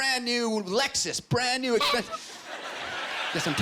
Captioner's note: honking